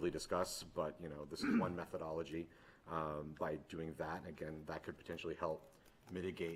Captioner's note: clears throat